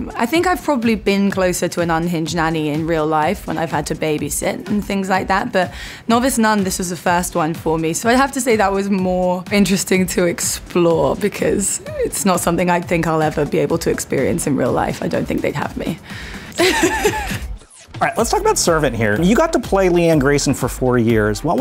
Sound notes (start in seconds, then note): 16.5 laughs